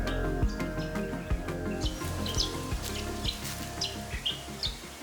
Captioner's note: birds chirping